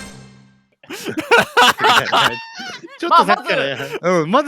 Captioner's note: laughing